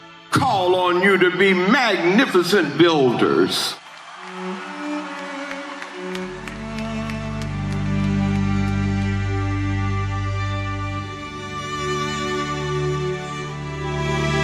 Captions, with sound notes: call on you to be magnificent builders." (crowd clapping) (lively music)